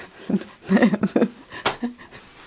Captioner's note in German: Lachen